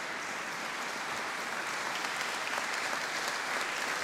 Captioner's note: applause continues